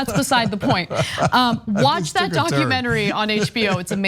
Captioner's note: laugh